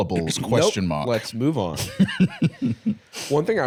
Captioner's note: laughing